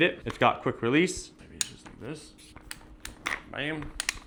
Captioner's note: tripod clacking